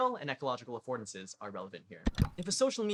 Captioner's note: click